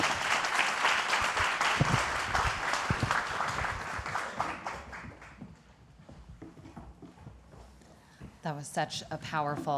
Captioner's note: applause